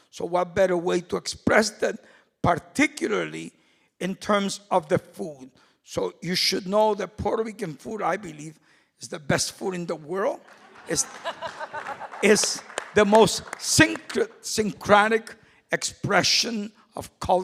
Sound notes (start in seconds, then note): 10.4 applause; 10.5 laughing